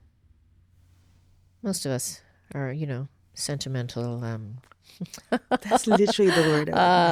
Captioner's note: laughs